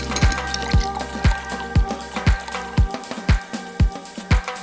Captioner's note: cocktail pouring